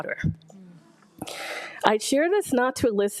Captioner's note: attendees groaning and gasping